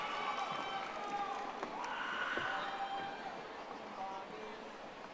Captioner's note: audience applauding